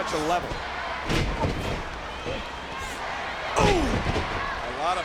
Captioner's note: body thuds